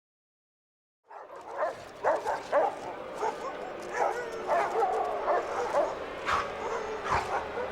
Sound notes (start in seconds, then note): 1.0 dogs barking